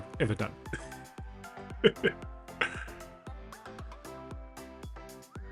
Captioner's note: laughs